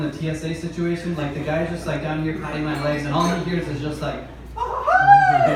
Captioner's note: mariachi Scream